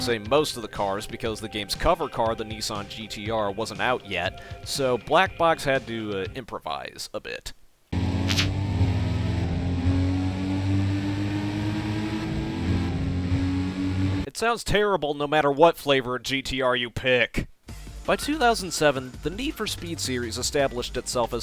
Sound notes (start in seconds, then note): 7.9 sounds of two GT-Rs